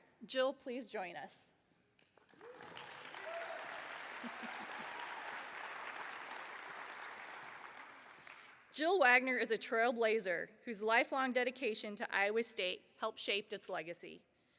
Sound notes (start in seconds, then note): 5.8 applause